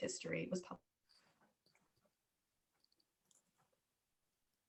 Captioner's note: audio cuts out